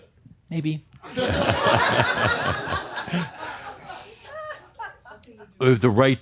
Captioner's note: more laughter